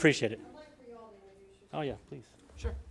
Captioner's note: speaking off microphone